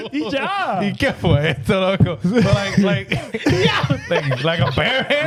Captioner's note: laughing; speaking In Foreign Language